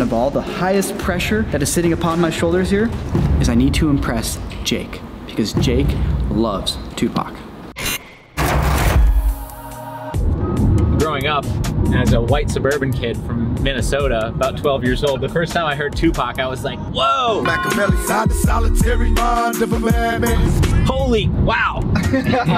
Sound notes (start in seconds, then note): 7.9 Corridor Intro SFX